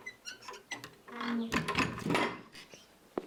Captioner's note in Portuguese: Abrir de armário; Fechar de armário